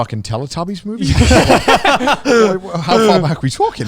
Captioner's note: everyone laughs